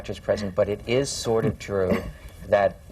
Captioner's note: laughs